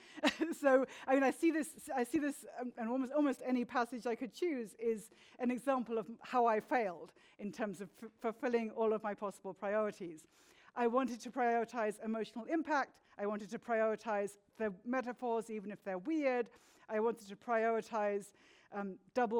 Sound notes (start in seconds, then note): 0.2 chuckles